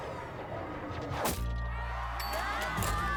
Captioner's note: cheers